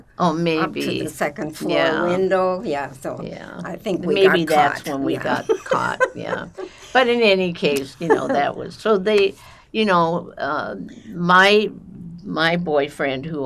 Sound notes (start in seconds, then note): 4.2 laughing